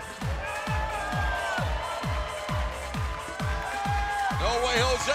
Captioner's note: cheers and applause